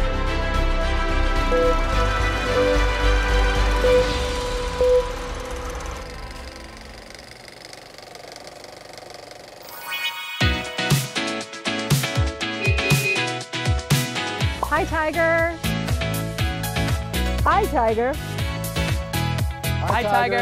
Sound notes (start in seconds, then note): 0.0 dramatic music continues; 1.6 screen beeping; 6.0 reel clicking; 10.2 logo chiming; 11.0 upbeat music; 12.5 horn honking